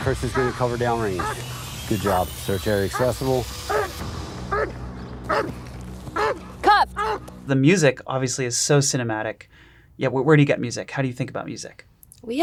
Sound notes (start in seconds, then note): 5.2 dog barking